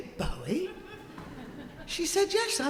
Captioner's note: audience laughing